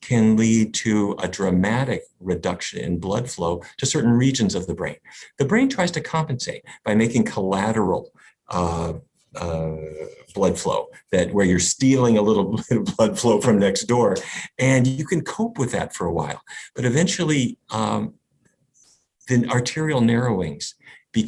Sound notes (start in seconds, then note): 12.7 laughs